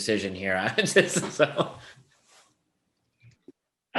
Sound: laughs loudly

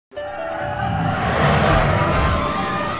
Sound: screaming

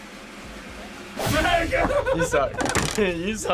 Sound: drum roll; laughs

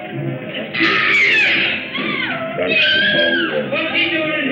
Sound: screams

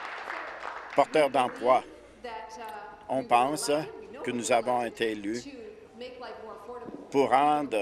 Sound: applause

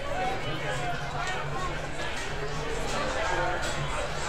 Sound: crowd chattering

